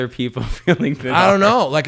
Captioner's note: laughing